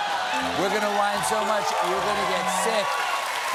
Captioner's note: cheers and applause